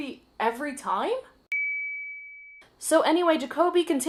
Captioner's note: ding